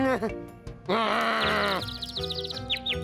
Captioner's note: whimpers; growls; birds chirping